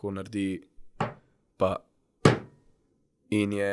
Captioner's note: hits the table